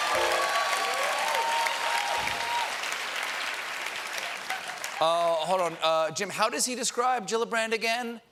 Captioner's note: cheers and applause